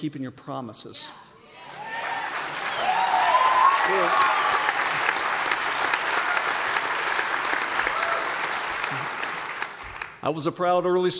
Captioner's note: applause